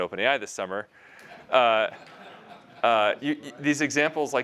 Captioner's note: laughter